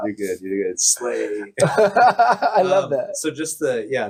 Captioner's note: laughs